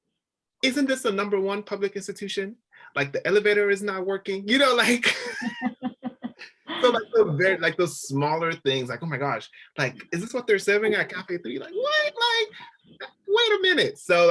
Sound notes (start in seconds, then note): 6.7 all panelists laughing